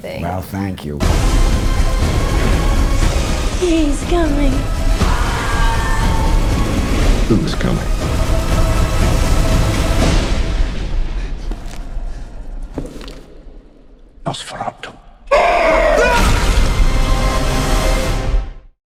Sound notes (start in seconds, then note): 4.9 dramatic music continues; 4.9 Ellen screams; 12.6 footsteps thudding; 15.2 vampire shrieks; 15.3 person screams